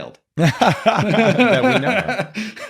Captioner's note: laughing